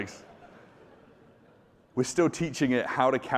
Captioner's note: audience laughing